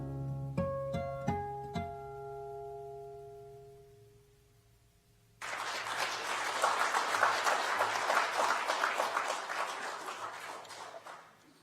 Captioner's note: applause